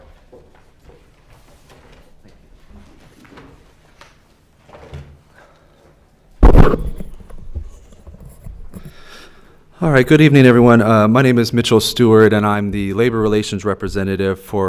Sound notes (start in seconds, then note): 2.0 objects clanking; 6.4 mic thuds